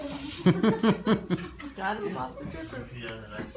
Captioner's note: laughs